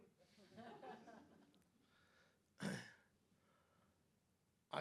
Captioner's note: audience chuckling